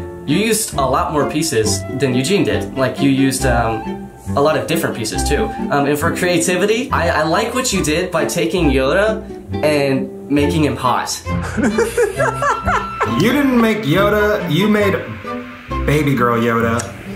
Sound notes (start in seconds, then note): 11.4 group laughing